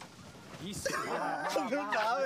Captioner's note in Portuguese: todos rindo